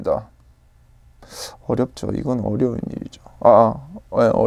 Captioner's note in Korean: 스읍